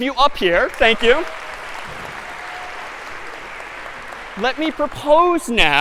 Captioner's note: applause